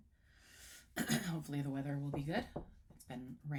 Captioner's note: knocks wood